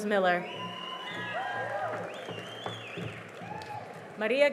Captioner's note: cheering and applause